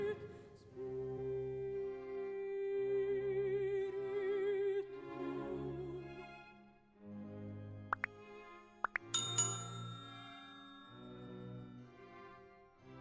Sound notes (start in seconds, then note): 0.2 soft music; 8.8 pop; 9.0 bell rings; 10.4 soft music